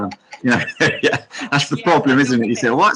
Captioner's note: chuckles